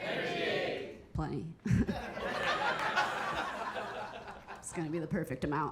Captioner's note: audience laughing